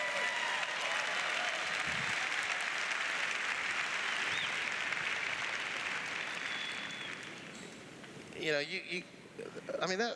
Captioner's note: cheers; applause